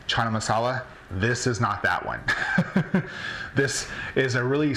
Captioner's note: laughs